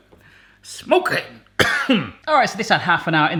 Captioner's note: coughing